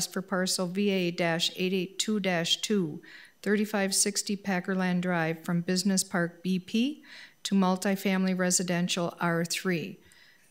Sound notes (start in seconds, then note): none